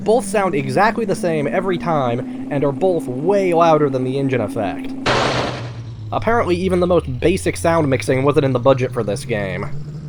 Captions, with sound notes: Both sound exactly the same every time, and are both way louder than the engine effect. *loud crash* Apparently, even the most basic sound mixing wasn't in the budget for this game.